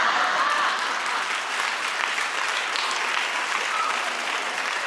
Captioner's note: crowd laughs